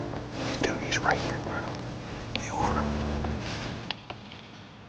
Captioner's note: whispering